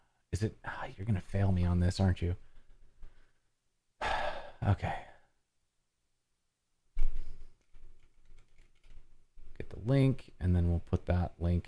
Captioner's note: heavy sigh